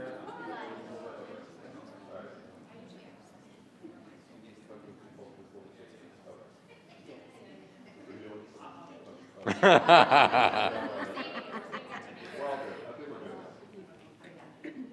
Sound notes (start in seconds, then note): 6.7 group quietly conversing; 9.4 group laughing; 9.7 group quietly conversing